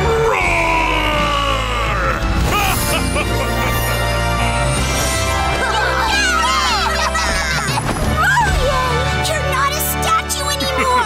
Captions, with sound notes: [roaring] [laughing] [cheering] Roarian! You're not a statue anymore!